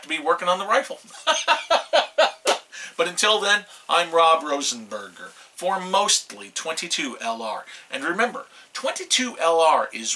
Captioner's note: laughs